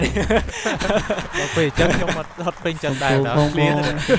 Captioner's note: laughs